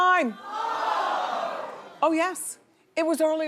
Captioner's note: audience gasps